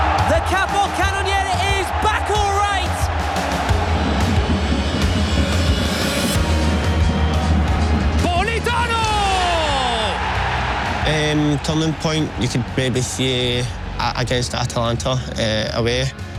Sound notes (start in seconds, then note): 3.0 crowd cheering; 10.2 crowd cheering